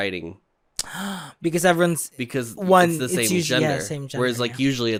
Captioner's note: gasps